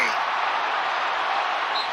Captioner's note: whistle blowing